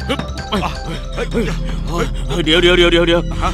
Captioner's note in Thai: หอบ